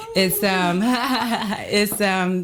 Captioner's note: Kellita laughs